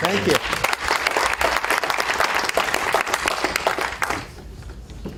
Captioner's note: applause